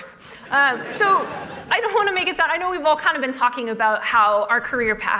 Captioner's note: laughter